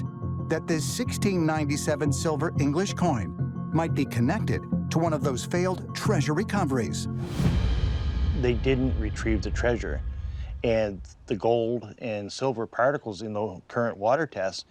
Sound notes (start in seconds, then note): none